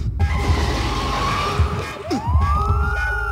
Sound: tires squealing; police sirens wailing

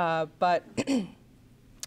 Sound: clears throat

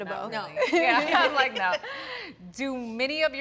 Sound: all laughing

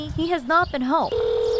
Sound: nat pop of phone ringing

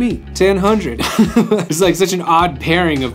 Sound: laughs

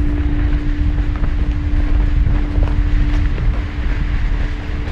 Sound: tense music; strong wind blowing

